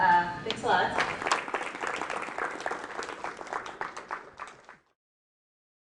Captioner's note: applause